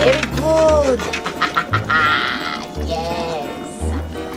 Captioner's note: laughs evilly